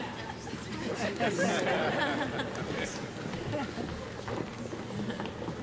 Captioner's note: everyone chuckling